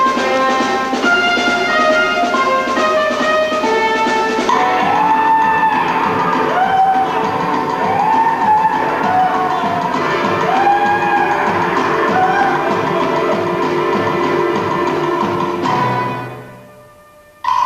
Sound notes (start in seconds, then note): 4.6 American officers cheer wildly